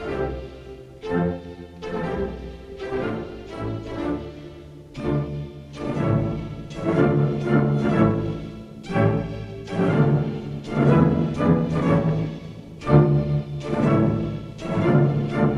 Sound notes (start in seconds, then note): none